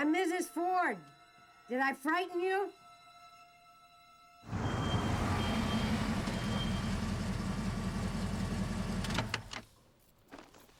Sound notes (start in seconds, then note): 4.4 engine rumbles